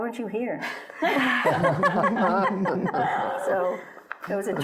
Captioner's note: laughing